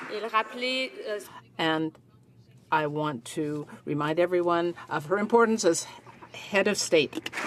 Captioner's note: applause